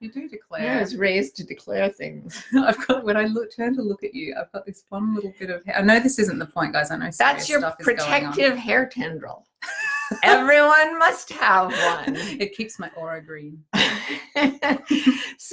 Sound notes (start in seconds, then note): 9.6 both laughing; 13.7 both laughing